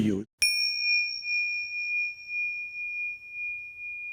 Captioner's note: bell ringing